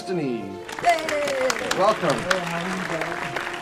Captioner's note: instrumental Music -- theme; applause